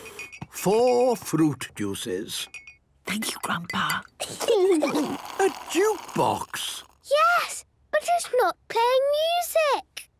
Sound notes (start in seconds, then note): 2.7 Granny whispering; 4.2 children giggling